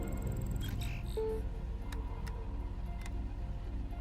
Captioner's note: electronic sounds